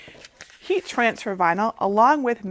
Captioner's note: vinyl shuffling